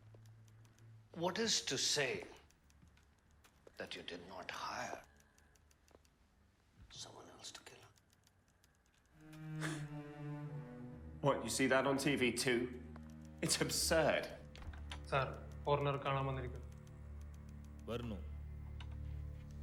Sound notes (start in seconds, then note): 14.9 speaking foreign language